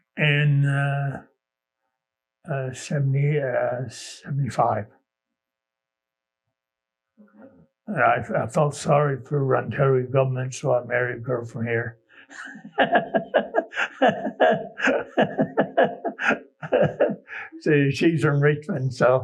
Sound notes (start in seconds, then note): 16.5 laughs